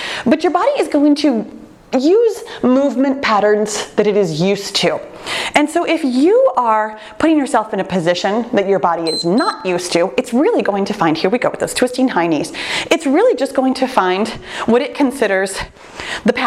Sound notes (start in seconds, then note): 9.0 timer beeps